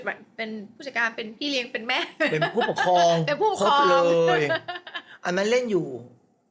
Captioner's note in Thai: เสียงหัวเราะ